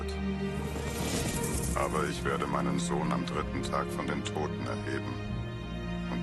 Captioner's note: horse gallops and whoosh